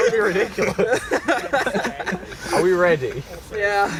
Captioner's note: laughter